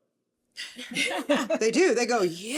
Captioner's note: laughing